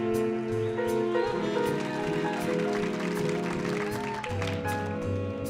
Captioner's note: audience applauding